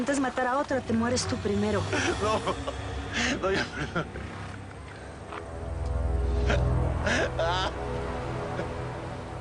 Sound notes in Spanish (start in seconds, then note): 4.4 Sollozos